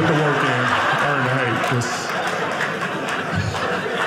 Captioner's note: audience laughing